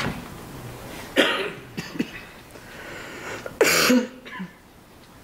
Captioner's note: board members coughs